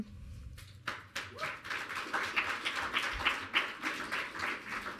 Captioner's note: audience clapping